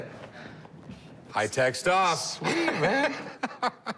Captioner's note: chuckles